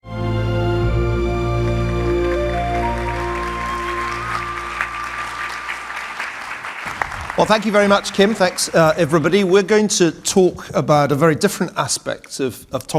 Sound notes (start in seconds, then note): 0.0 uplifting music; 1.5 audience applauding